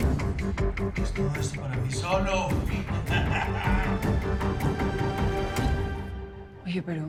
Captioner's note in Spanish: Ríe